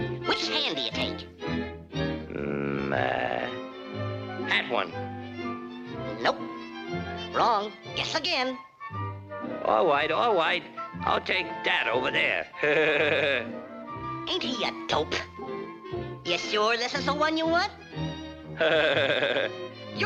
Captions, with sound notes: - Which hand do you take? - Mm, uh, that one. - Nope. Wrong. Guess again. - All right, all right, I'll take that over there. (laughs) - Ain't he a dope? Ya sure this is the one you want? (Elmer laughs)